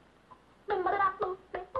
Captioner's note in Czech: Bzučení